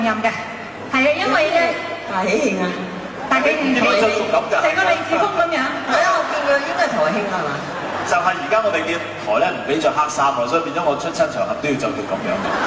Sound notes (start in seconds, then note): 9.9 laughs